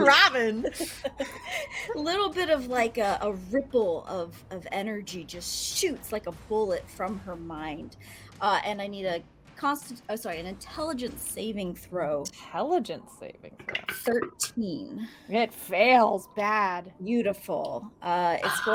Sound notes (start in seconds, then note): 0.0 laughs; 14.1 dice rolls